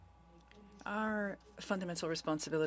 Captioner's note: speaking French